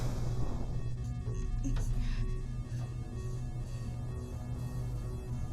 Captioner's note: alarm blaring steadily